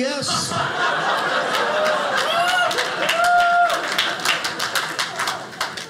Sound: audience laughing

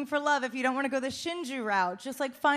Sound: speaking Japanese

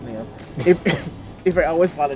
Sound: laughs

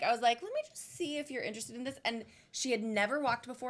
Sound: none

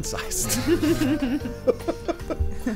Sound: giggling

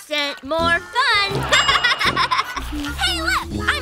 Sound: laughing

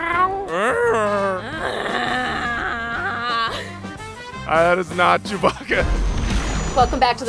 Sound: painful grunt

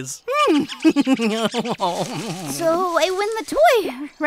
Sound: laughing

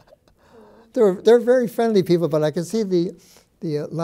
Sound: chuckles

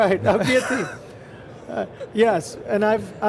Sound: all chuckle

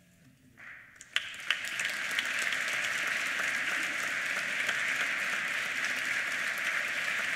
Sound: applause

